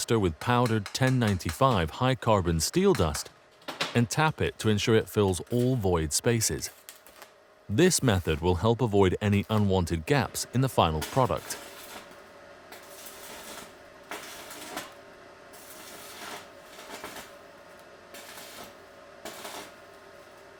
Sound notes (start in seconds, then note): 12.4 sparks buzzing